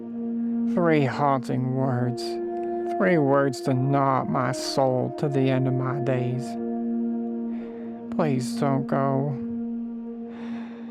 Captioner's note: sigh